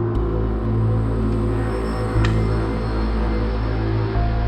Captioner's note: lock clicks